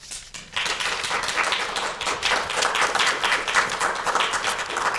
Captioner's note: students clapping